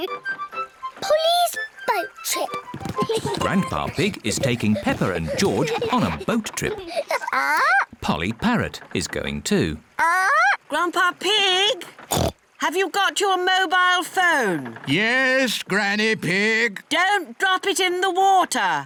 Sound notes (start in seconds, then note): 7.0 polly squawks; 9.2 polly squawks; 12.1 oinks